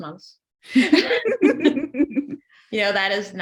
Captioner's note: both laughing